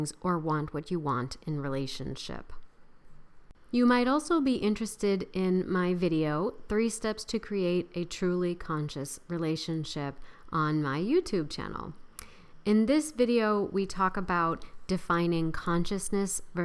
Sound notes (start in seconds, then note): none